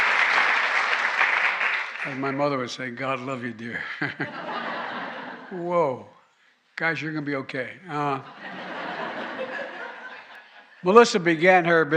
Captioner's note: applause